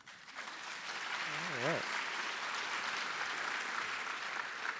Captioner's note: audience applause